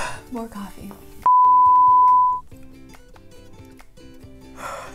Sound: high-pitched toning; yawning

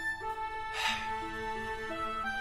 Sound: sigh

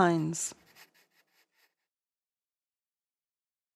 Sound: the sound of a pencil drawing on paper fades out

